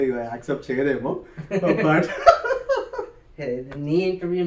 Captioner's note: laughs